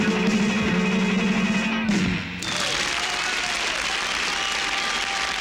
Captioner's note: shouts and applause